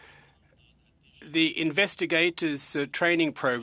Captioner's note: speaking french